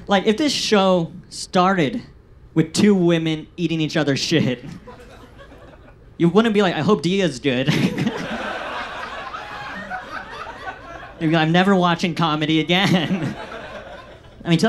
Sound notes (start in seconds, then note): 7.7 audience laughs